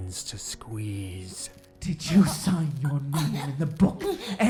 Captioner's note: Overlapping with Mary English's strangled recitation of the Lord's Prayer